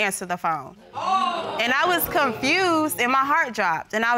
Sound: woman exclaims

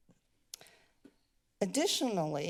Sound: clicks tongue

